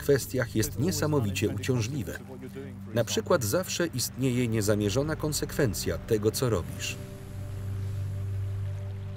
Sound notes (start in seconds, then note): 6.9 chemicals hiss